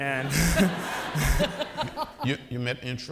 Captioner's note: audience laughing